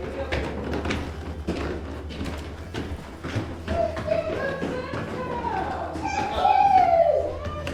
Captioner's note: footsteps running to the door